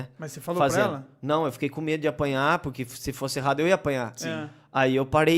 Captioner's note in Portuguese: sim risos